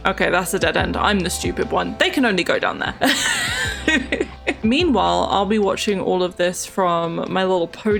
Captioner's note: laughs